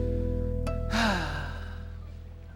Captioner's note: sighs